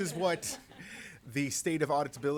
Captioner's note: laughter